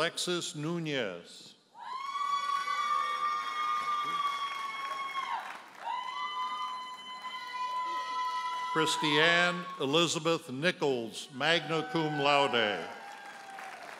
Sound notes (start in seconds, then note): 2.4 audience hollers and applauds; 12.5 audience member hollers